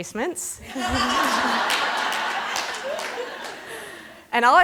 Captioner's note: laughter